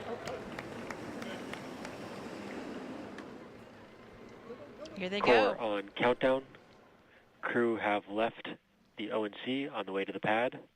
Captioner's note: cheering and applauding